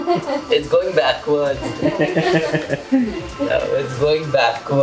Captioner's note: laughs